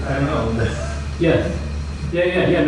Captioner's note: laughs